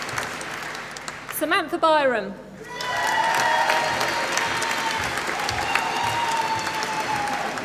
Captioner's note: applause